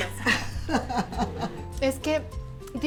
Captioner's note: laughter